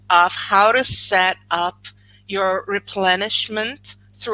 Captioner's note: none